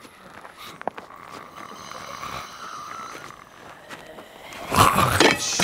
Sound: growling

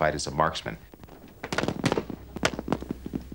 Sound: gunshots

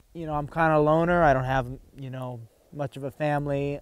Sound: none

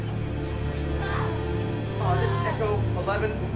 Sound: dramatic orchestral music; yells

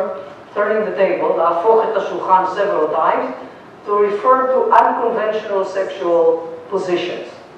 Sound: non-english

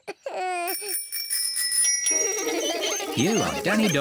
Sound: bells ringing; laughing

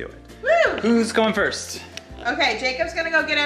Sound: exclaiming

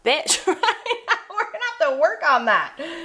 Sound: laughs

